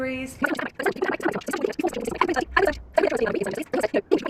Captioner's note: garbled high-speed voice